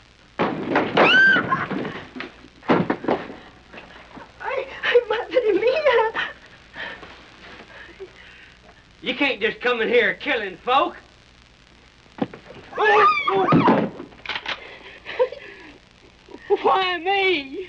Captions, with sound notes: - [door slams open] - [woman screams] [in Spanish] Oh my God! You can't just come in here killin' folk! - [woman screams] - [man groaning] [gun cocking] Why me?!